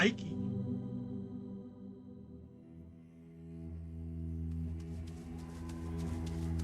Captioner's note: soundbite of person running